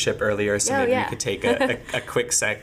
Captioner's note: laughing